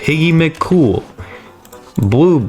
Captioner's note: inhales Oxygen